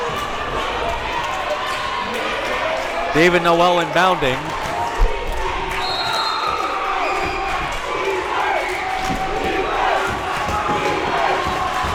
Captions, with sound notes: David Noel inounding. (crowd chanting defense)